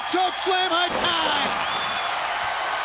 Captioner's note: crowd cheering